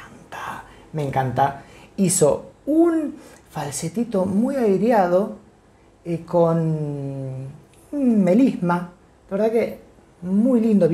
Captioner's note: falsetto